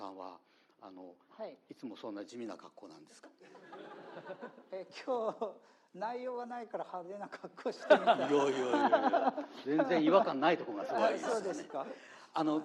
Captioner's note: laughs